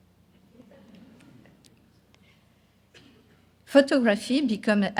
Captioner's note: audience laughing